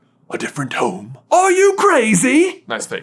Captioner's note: accented